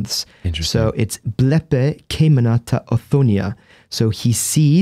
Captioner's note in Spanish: Leyendo en griego